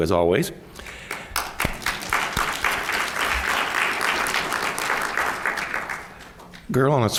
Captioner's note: applause